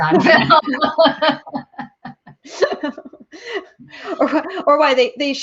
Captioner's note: all laughing